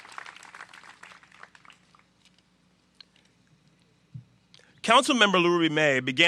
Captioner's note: applause